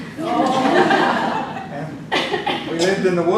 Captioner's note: group laughs